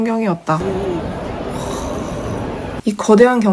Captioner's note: exclamation